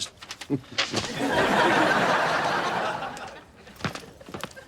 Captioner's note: audience laughs